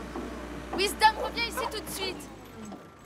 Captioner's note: dog barking